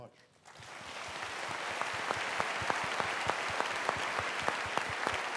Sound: applause

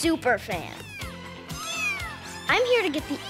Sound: meowing

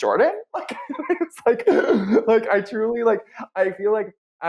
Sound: laughs

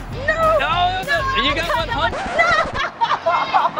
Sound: record scratch

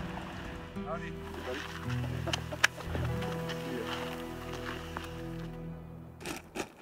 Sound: speaking off mic

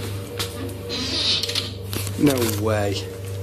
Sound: floor creaking

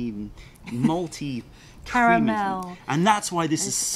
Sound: laughter

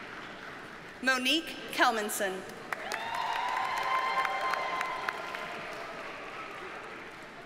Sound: audience cheers and applauds

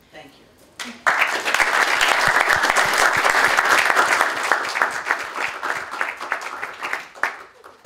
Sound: applause

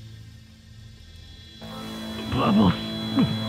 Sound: ears ringing

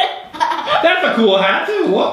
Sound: girl laughs

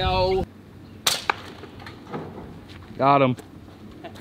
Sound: clanging pellet shot

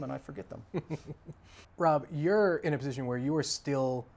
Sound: chuckles

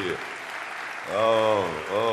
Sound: audience applause

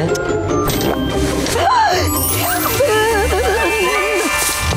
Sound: gasping

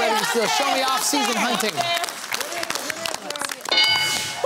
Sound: cheering

